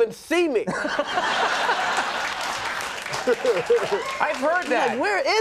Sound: audience laughs

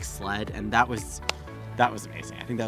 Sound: claps hands

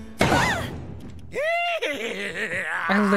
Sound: Don Corneo Laughing Evilly

